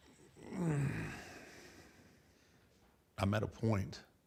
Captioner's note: Undertaker sighs